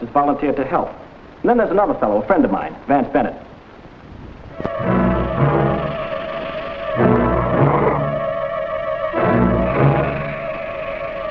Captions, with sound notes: has volunteered to help. And then there's another fellow, a friend of mine, Vance Bennett. (suspenseful music) (serpent hissing and rattling)